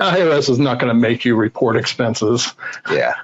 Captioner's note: laughs